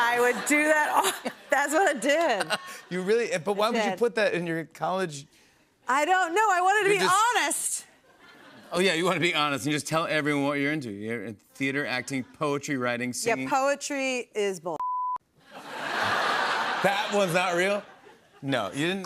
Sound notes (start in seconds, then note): 15.4 laughter